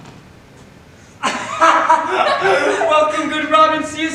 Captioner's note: Oberon and Puck laugh